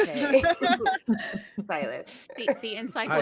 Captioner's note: laughing